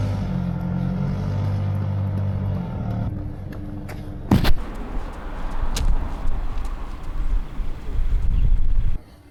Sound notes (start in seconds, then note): 2.4 engine revving